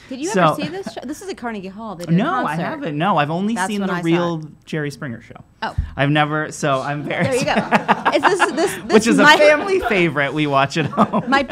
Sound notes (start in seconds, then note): 7.2 laughing